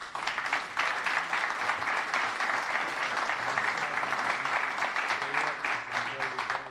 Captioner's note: applause